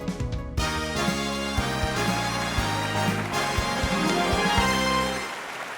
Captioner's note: upbeat music; audience applauds